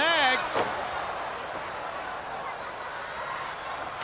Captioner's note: crowd yelling